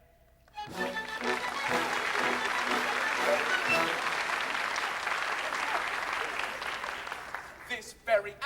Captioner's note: applause